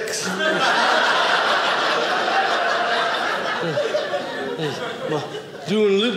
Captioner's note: audience laughing